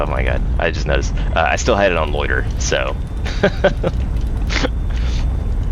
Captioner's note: laughs